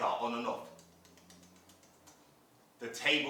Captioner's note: sound of flickering